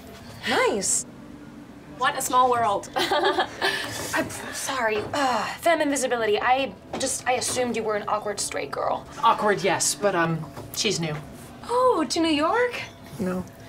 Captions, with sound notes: Nice! What a small world! (awkward laugh) Sorry - femme invisibility - I assumed you were an awkward straight girl. Awkward, yes, but um, she's new. Oh, to New York? No.